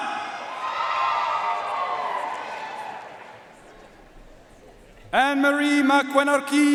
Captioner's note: audience cheering and applauding